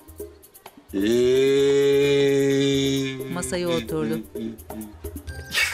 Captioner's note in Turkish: Ağlama sesi